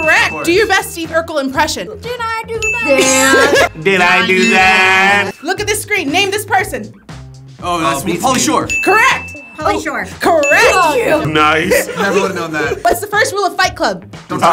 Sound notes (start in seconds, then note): 2.8 laughs